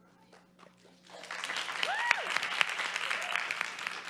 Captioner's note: crowd applause